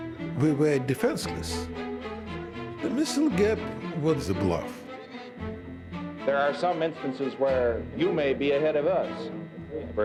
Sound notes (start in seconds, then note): none